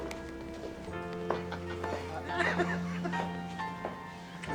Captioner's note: laughter